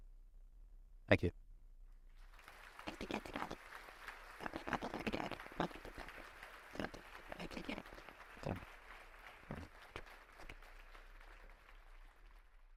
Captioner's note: applause